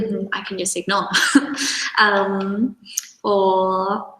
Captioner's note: chuckles